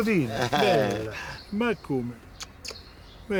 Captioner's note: kissing sound